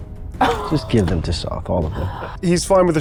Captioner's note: chuckling